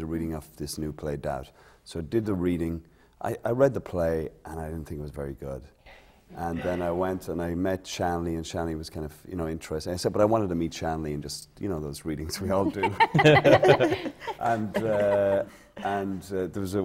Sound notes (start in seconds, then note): 15.4 laughter